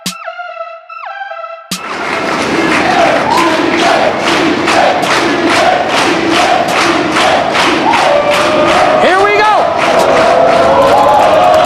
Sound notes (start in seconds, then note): 0.2 hip hop music; 3.1 crowd